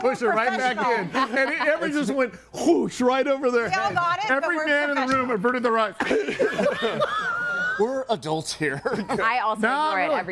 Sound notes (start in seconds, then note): 6.0 person laughs